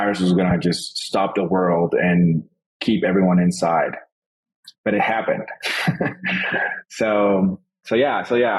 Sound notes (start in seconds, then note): 5.3 laughs